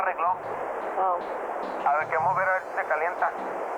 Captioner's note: non-english speech